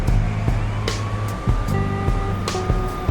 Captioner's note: siren